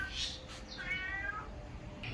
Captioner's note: cat meow